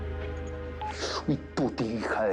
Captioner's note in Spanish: Sonido al marcar